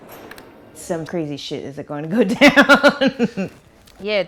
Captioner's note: laughs